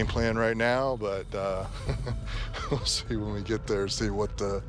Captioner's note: laughs